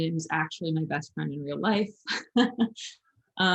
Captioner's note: chuckles